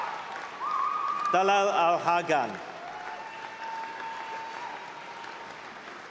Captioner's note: applause